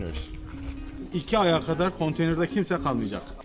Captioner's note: talking in Turkish